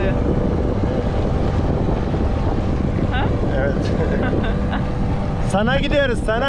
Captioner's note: engine Sound